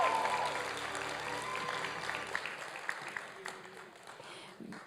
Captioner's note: applause